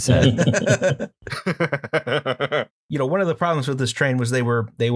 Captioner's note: laughter